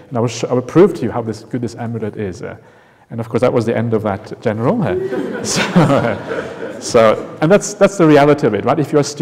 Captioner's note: laughter